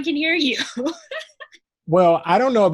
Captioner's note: laughs